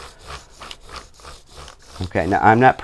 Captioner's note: crayon grates